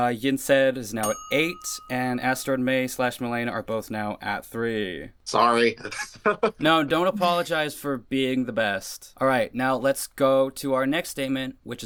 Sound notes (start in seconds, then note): 5.8 laughs